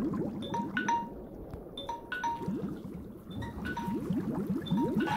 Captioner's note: timer beep